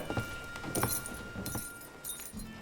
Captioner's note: shoes jingling